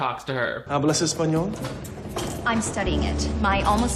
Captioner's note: Henry speaks Spanish